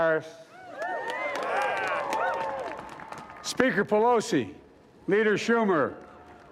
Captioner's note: cheering